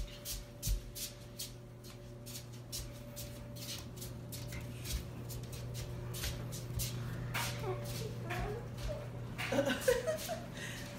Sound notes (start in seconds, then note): 4.2 shuffling footsteps